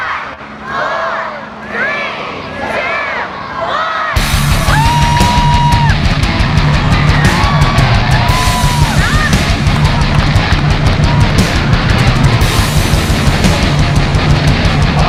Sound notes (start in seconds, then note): 0.4 crowd; 4.4 cheering; 7.0 intense action music